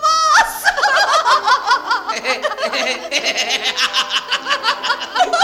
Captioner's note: laughs